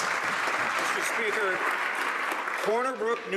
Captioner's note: some Applause